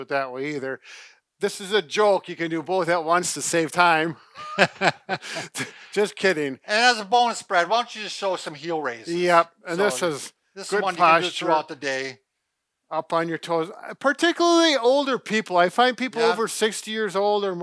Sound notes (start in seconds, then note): 4.3 laughs